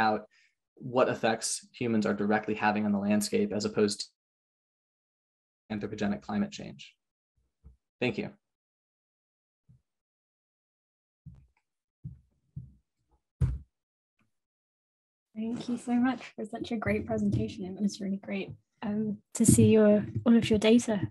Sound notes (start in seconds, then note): 8.6 pause